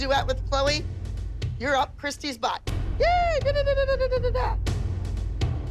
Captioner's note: gibbers excitedly